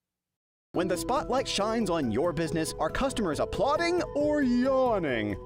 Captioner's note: voiceover